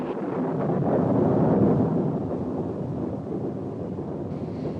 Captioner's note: thunder continues rumbling